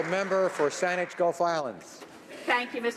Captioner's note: applause